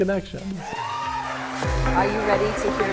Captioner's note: crowd cheering